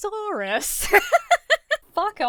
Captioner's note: laughs